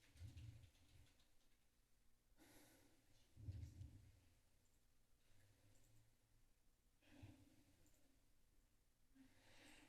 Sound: typing

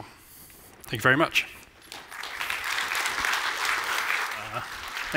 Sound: applause

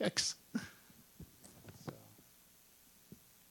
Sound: laughing

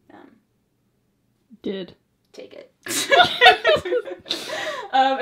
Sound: both laugh

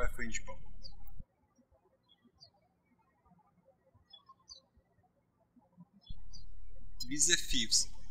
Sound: birds chirping

